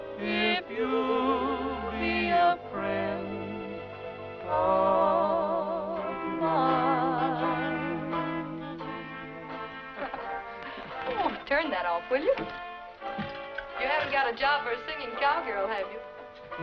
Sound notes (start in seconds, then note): 9.8 laughing